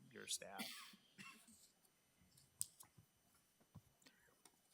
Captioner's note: trustee coughing